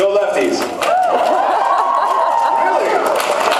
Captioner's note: cheers; applauds